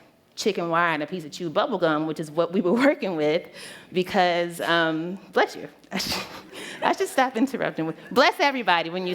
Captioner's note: sneeze